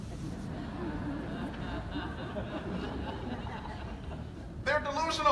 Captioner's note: audience laughing